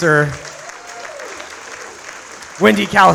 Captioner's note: audience applauds